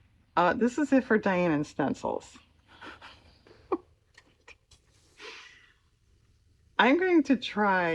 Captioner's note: laughs